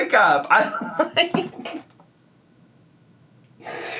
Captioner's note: laughs